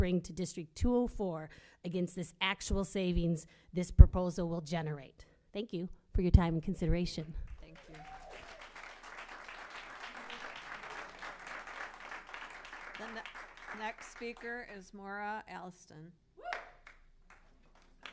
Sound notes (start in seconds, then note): 7.4 applause